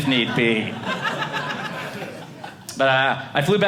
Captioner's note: audience laughing